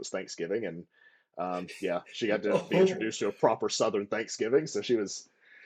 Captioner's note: laughter